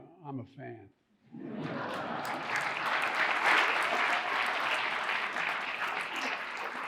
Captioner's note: audience applauding and laughing